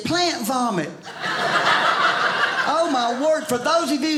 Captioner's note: audience laughing